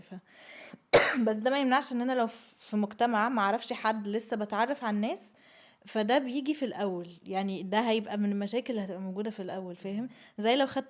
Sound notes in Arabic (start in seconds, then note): 1.0 تنحنُح